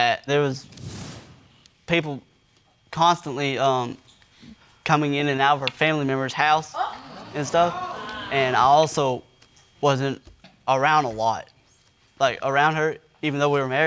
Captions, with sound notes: There was people constantly, um, coming in and out of her family member's house and stuff. (AUDIENCE EXCLAIMING) And I also wasn't around a lot. Like, around her, even though we were married,